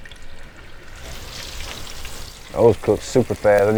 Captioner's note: grease sizzling